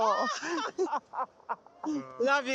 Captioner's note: laughter